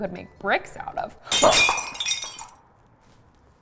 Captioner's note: sound of glass breaking